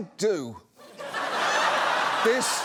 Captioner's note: audience laughs